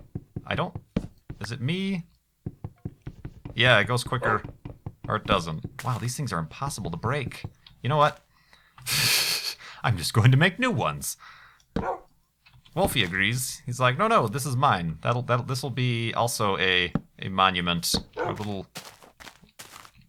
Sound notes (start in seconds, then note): 11.8 wolfie barks